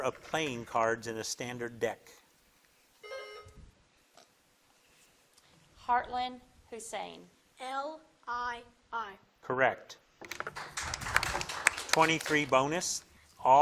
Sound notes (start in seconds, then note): 3.0 buzzer dings; 10.3 crowd claps